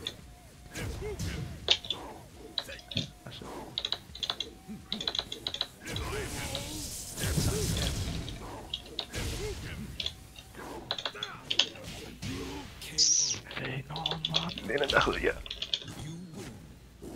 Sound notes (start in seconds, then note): 13.0 tsssk